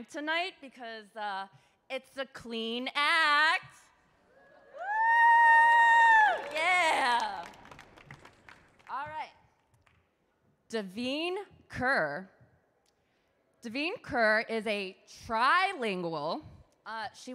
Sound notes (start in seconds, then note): 4.4 audience cheers; 5.6 audience claps